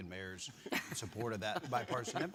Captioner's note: laughing